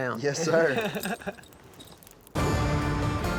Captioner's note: laughter